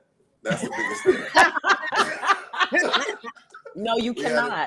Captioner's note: group laughing